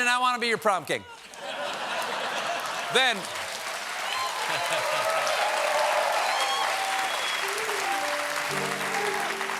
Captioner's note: cheers and applause; laughter